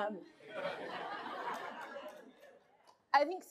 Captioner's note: laughter